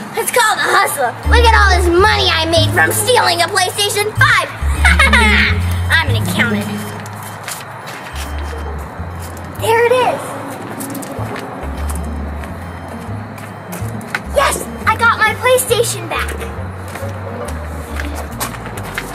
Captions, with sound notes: It's called the hustle. Look at all this money I made from stealing a PlayStation 5. (Evil Assistant laughing) I'm gonna count it. - There it is. Yes! I got my PlayStation back.